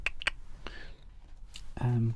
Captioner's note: clicks tongue